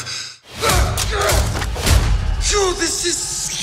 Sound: grunts, yells

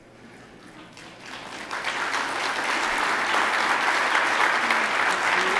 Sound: attendees applauding

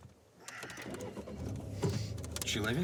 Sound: engine and radio switch on

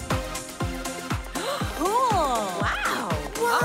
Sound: gasping in awe; gasping

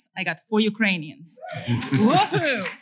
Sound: cheering

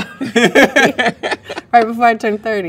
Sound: both laugh

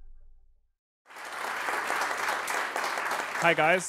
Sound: audience applauding

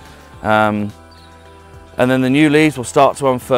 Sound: birds chirping

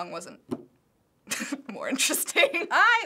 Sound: laughs

